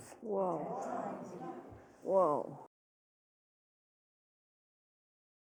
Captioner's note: crowd murmuring